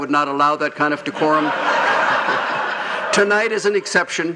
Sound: laughing

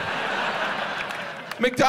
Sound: audience laughs

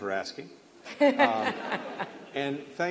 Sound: laughter

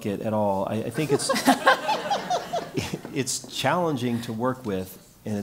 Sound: laugh

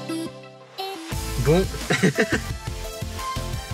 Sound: laugh

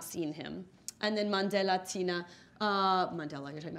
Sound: speaking in foreign language; speaking faintly

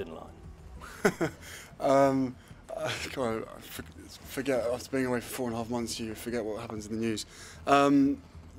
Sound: lauhter

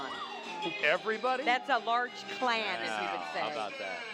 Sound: sirens

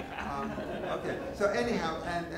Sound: laughing

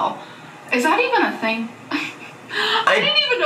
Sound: laughs

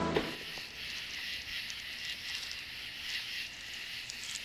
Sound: insects chirping

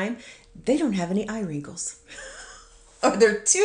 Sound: laughs

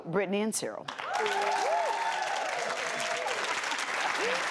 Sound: audience cheers

